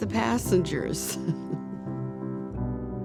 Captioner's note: chuckles